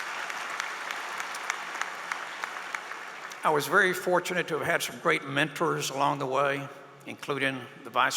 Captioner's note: applause